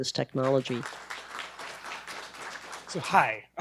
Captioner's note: group applauding